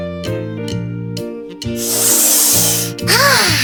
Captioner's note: sniffing